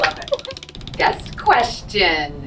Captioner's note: wheel clicking